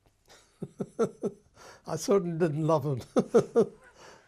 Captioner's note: laughs; laughs